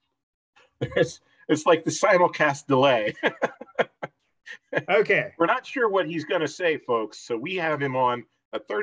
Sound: chuckles

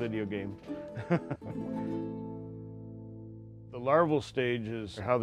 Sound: laughing

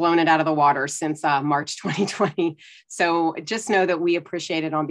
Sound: chuckles

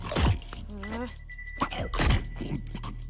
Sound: groans

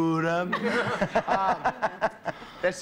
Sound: laughter

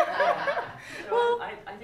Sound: laughter

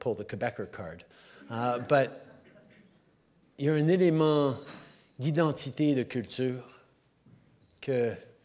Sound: laughter

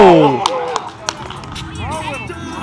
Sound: clapping

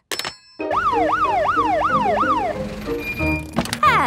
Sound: siren sounding

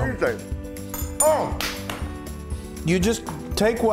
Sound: applause

